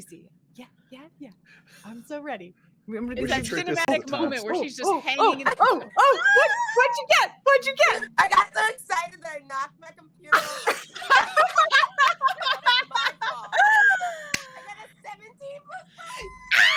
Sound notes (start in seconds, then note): 10.3 all laughing; 16.0 screams